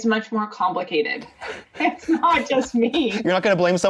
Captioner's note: chuckles